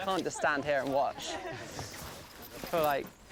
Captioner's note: laughing